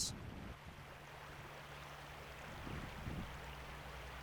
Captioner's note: water rushing